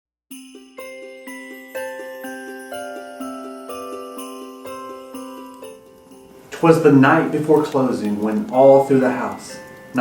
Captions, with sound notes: (sleigh bells) - Twas the night before closing when all through the house